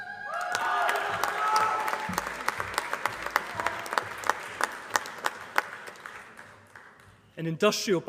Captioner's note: applause